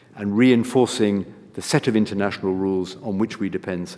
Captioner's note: none